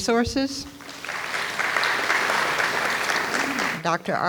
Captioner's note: audience applauds